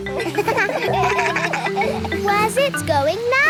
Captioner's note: kids laugh